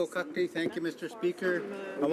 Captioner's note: speaking French